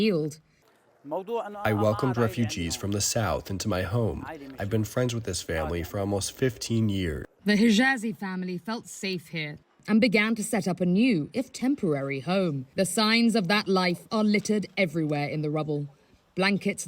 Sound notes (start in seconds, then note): 2.3 through translator